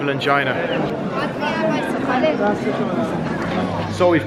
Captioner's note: people talking